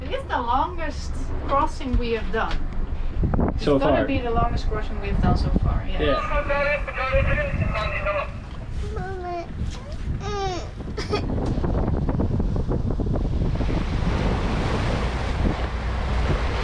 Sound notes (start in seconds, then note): 6.0 radio chattering; 7.0 crying; 11.5 water splashing; 11.5 wind blowing